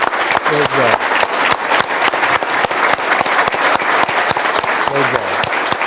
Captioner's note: applause